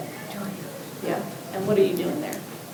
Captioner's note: student speaks faintly